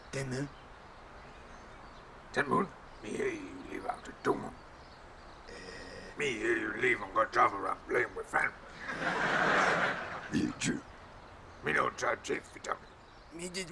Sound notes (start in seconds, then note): 8.6 audience laughing